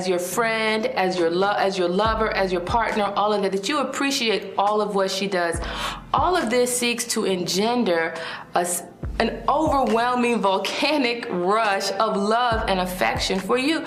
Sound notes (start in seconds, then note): none